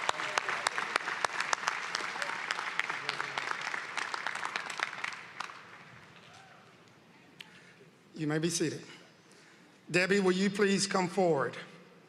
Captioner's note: applause